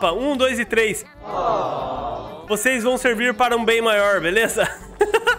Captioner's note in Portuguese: risos